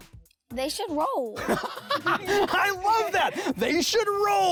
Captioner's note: laughs